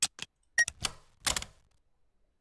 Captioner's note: door unlocked